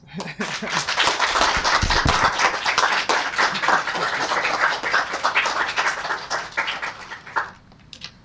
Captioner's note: applause